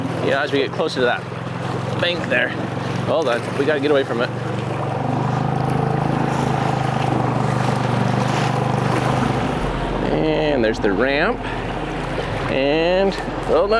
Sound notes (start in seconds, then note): 4.9 boat engine roaring; 4.9 waves crashing